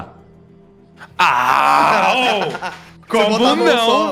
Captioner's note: grunts